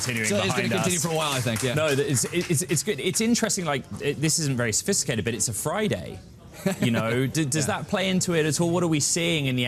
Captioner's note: applause